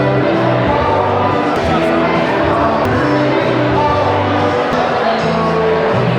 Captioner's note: soft music; crowd murmuring in the background